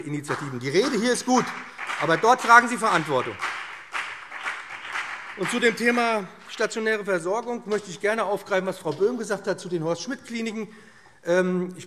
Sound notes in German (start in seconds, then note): 3.3 Beifall BÜNDNIS 90/DIE GRÜNEN und vereinzelt CDU